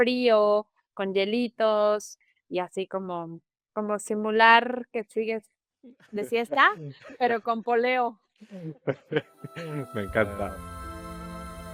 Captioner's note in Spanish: risas